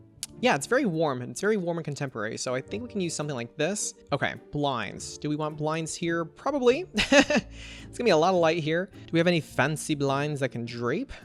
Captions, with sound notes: yeah, it's very warm, it's very warm and contemporary. So I think we can use something like this. Okay. Blinds. Do we want blinds here? Probably! (Laughs) It's gonna be a lot of light here. Do we have any fancy blinds that can drape?